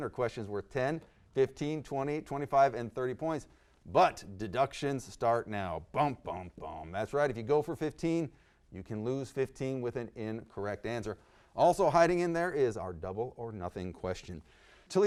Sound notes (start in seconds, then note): 5.4 emulates suspenseful music